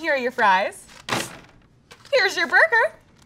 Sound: fries crashing

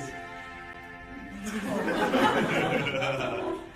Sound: laughter

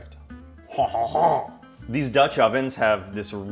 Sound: imitates French laugh

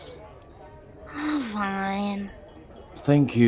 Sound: sigh

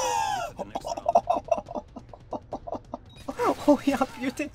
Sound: laughs

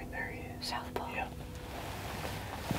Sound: whispering

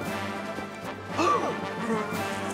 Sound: gasping

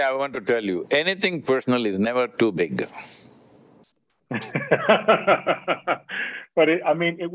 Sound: Vusi laughs

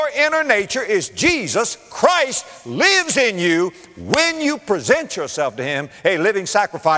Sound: clap

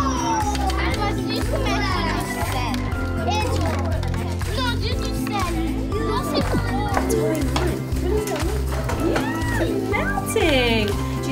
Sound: ambient classroom sounds

